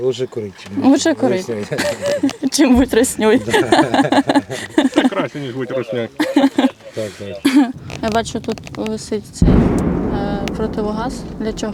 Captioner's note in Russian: смех